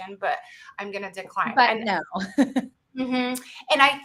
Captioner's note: laughs